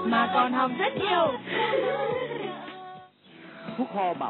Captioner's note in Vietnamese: Tiếng cười